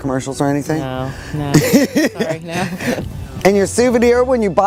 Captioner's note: laughs